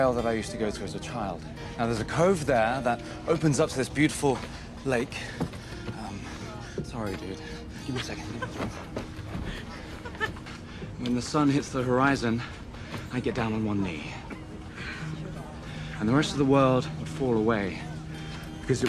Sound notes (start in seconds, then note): 9.7 Rachel laughing